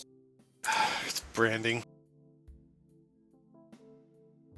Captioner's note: sigh